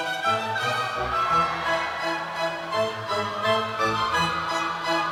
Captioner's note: audience cheers